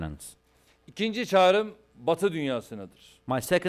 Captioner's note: non-english speech